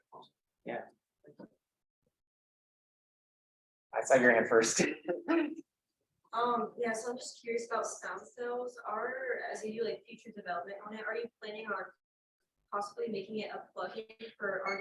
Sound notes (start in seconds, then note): 4.4 laughs